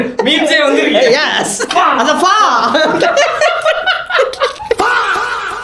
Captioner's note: laughter